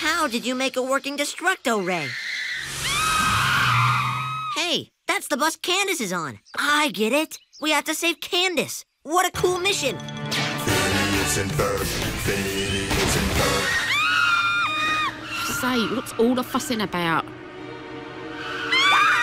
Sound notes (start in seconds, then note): 2.0 girls scream; 13.6 both scream; 18.4 all scream